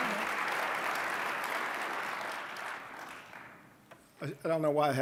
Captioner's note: applause